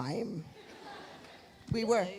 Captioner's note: audience laughs